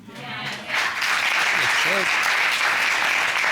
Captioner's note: audience applauding